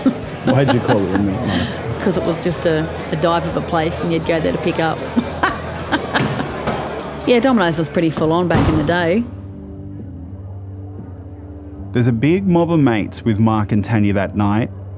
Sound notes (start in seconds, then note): 5.0 laughs